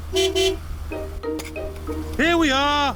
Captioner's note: honks horn